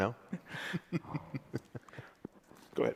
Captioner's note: laughs